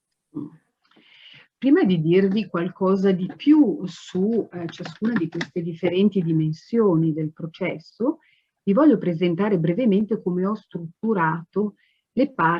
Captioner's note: speaks Italian